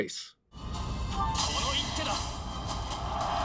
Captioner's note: Byleth's Japanese voice